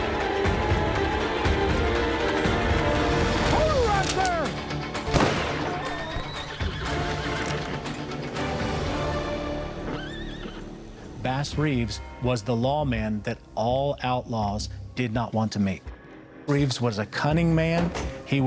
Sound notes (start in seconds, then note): 0.1 dramatic music; 5.0 gunshot